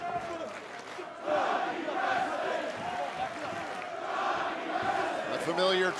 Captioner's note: fans chanting